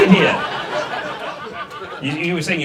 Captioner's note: audience laughs